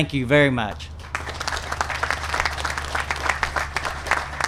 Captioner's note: applause